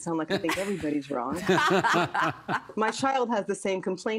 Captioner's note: laughter